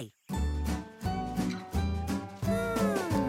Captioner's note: big sigh